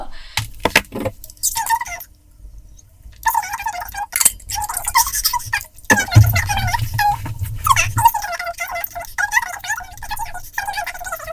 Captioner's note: gabbled speech in fast-forward